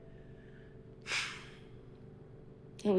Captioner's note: sigh